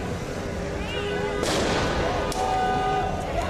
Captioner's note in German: Feuerwerk